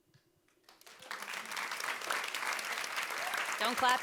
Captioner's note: audience applauding